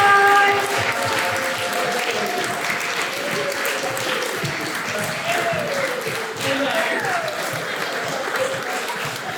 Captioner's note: applause